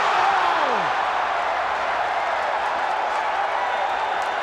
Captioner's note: crowd cheering